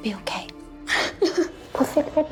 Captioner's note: sobbing